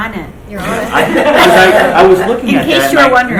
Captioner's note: group laughs